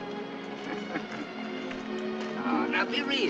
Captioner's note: jim laughing